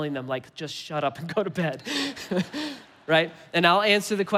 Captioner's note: laughing